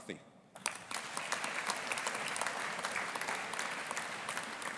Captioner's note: audience applauding